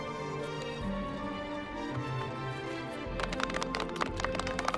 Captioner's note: clapping